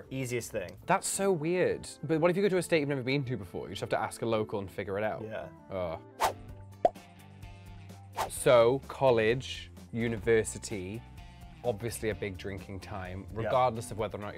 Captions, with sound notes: easiest thing. - That's so weird. But what if you go to a state you've never been to before? You just have to ask a local and figure it out? - Yeah. - Oh. (emojis popping) So college, university, obviously a big drinking time, regardless of whether or not